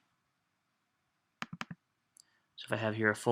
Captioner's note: mouse clicks